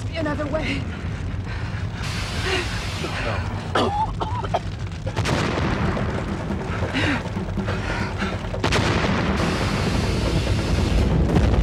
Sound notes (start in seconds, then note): 4.0 Dan coughing; 4.8 explosions